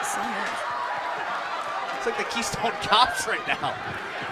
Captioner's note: cheers & applause